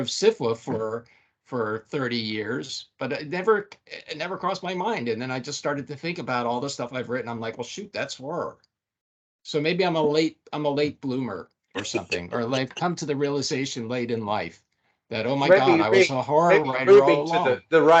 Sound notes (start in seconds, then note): 11.8 laughing